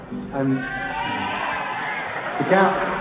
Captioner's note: crowd cheers